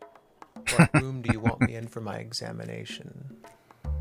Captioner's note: laughing